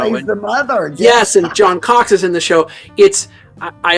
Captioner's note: chuckling